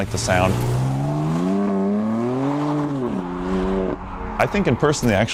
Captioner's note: engine revving